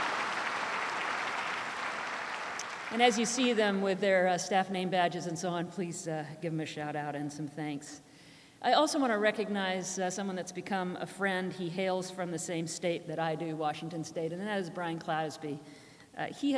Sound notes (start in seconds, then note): 0.0 applause; 2.1 applause continues